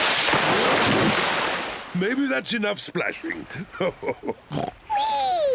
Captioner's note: chuckles